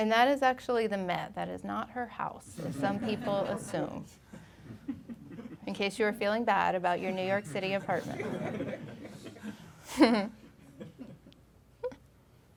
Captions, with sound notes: And that is actually The Met, that is not her house as some people assume. (audience laughing) In case you were feeling bad about your New York City apartment. (laughing)